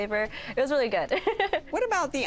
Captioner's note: laughs